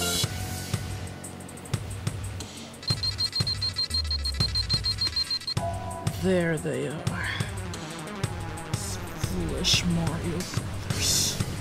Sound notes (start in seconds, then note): 2.8 beeping